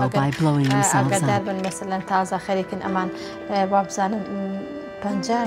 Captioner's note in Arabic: الصوت المنطوق الكردي